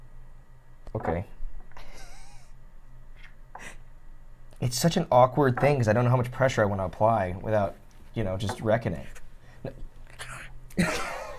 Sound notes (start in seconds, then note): 1.8 laughs